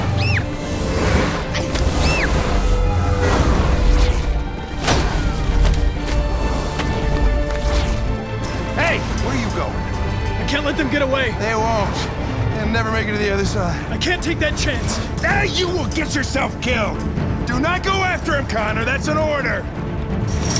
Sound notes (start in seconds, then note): 0.1 scream; 1.9 grunt; 1.9 scream; 4.8 thud